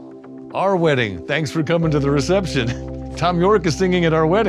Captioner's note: laughs